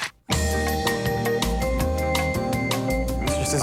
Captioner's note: camera clicks